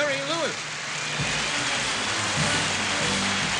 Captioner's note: applause